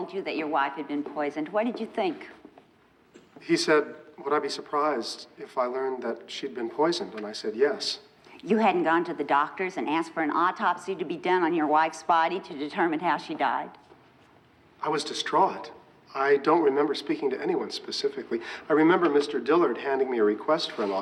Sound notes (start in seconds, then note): none